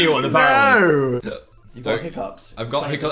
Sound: Phil hiccups

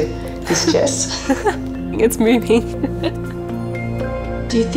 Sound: chuckles; gentle music

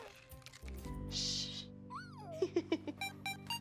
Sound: Rufus squeals; theme beeping

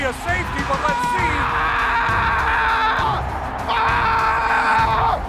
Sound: player yelling

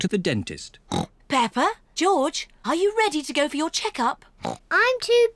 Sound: oinks; oinks

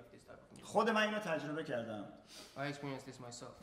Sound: speaking in farsi

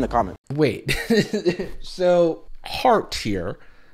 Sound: laughs

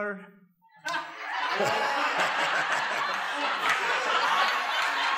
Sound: laughter

